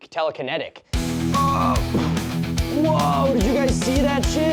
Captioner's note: blowing